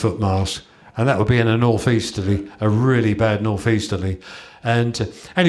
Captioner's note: gale